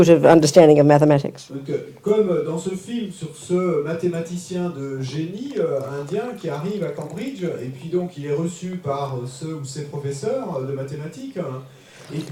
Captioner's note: French